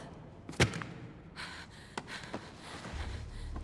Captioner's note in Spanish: respiración pesada